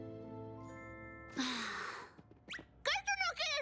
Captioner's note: sigh